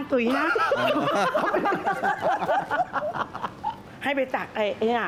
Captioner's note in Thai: เสียงหัวเราะ